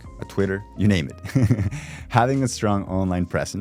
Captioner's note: laughs